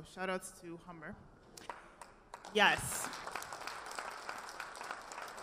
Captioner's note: audience applause